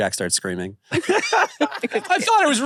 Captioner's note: laughs